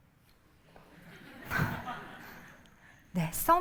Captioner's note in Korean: 웃음